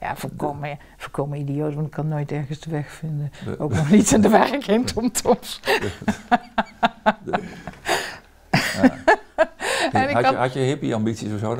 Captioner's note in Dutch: Lacht